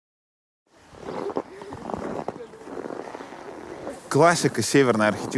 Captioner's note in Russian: хруст снега